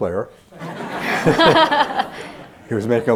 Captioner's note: laughter